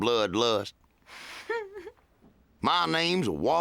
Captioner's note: suppressed giggle